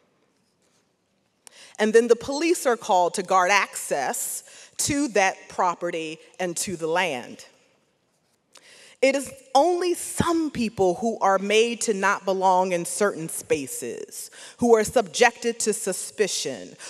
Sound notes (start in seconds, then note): none